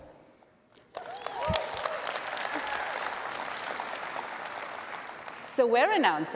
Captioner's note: cheers and applause